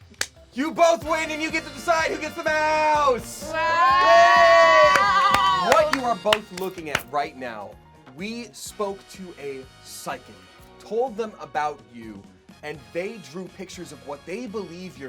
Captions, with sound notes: you both win and you get to decide who gets the mouse! (cheering) - What you're both looking at right now. We spoke to a psychic, told them about you, and they drew pictures of what they believe